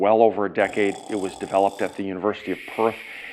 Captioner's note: zzzzz